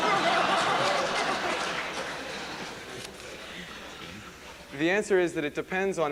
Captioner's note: laughter